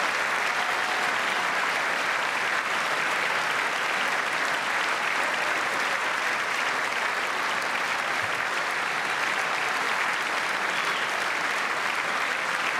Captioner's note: cheers and applause